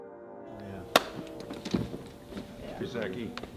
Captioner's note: hands clapping